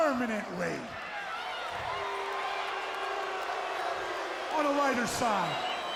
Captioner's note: audience booing